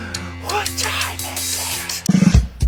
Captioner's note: whispering